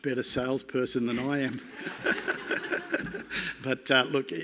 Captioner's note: laughs